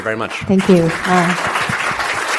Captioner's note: audience clapping